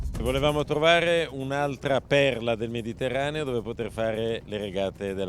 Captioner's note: uptempo drumming; speaking foreign language